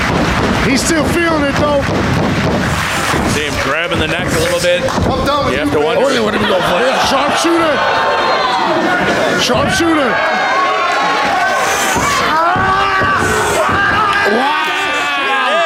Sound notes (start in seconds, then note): 10.1 screaming